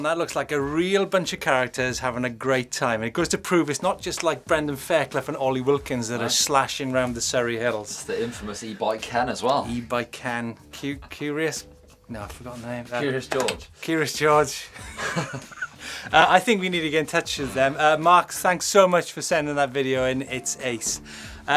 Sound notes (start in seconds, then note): 0.4 laughs; 14.3 laughs